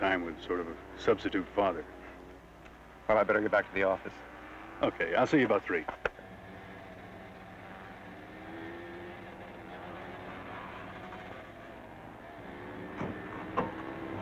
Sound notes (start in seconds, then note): none